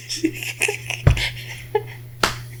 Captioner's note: laughing